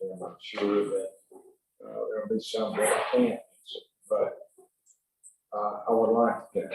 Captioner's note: audio gets muffled